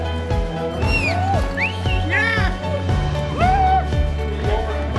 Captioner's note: whistling